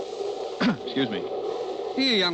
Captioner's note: clears throat